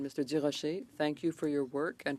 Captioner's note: speaking French